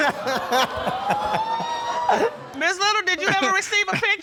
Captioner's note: all laughing